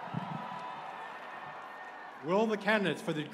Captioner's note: cheers and applause